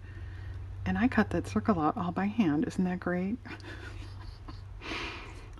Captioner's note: laughs